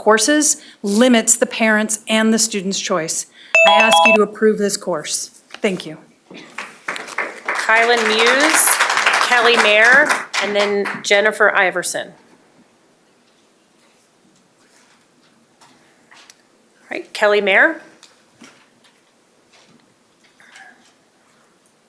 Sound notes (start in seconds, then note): 8.7 applause